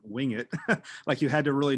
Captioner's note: laughing